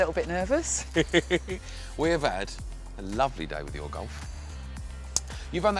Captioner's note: laughs